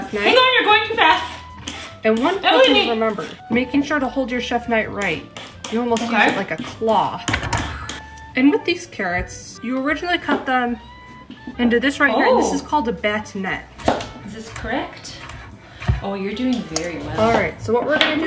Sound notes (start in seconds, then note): 7.7 hissing